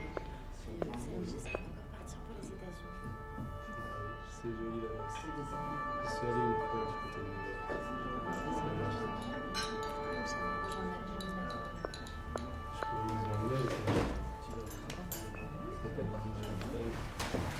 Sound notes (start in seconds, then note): 2.3 siren blaring, distant; 8.4 siren continues; 16.0 siren fades